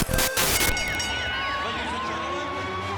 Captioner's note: bell rings